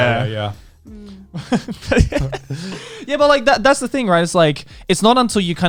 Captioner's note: laughs